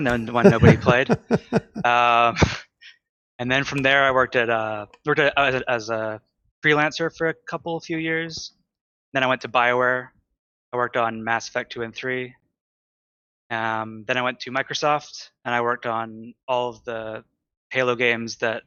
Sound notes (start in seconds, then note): 0.0 laughter